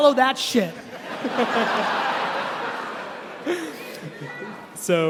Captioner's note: laughing